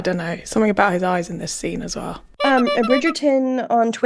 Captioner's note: clown noise